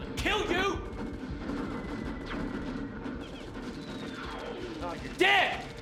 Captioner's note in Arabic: المؤثرات الصوتية للعبة